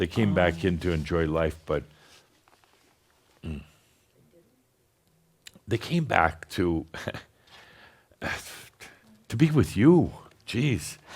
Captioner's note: choking up a little